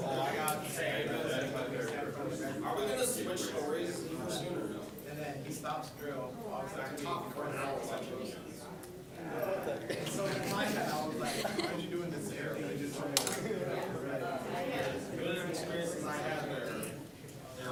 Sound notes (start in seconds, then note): 6.7 general chatter